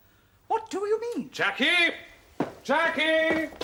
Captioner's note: SIMON shouts